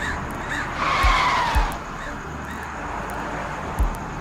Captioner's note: tires screech